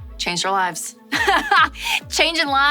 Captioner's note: laughs